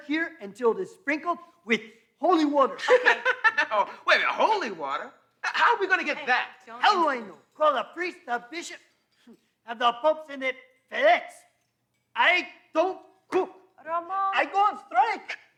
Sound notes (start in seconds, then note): 2.7 Larry laughs